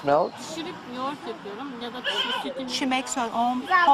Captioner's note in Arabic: تتحدث بلغة أجنبية